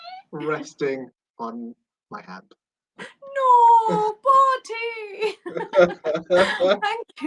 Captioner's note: laughter